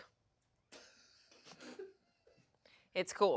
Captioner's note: crew laughs